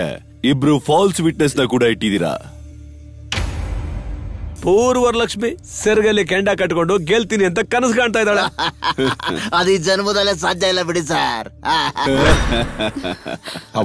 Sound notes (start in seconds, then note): 8.4 laughs; 11.6 laughs